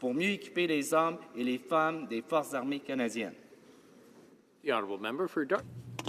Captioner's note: speaking French